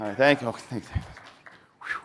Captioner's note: applause